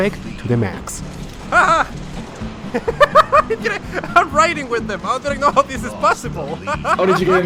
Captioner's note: laugh